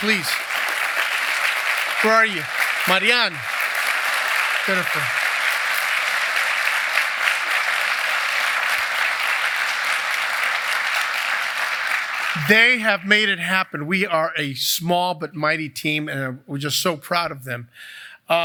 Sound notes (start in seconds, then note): 0.4 applause; 5.2 applause